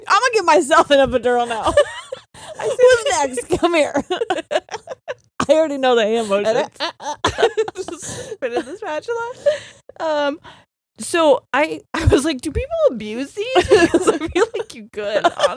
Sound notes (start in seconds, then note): 1.4 both laughing; 6.4 gibbering; 6.8 both laughing; 15.2 both laughing